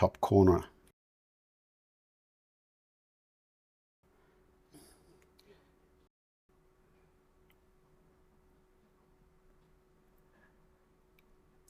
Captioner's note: silence